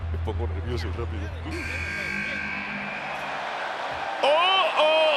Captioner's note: applause